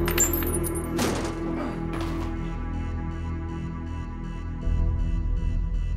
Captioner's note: chain clanking; grunts; door thuds